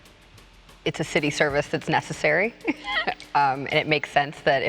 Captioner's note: laughs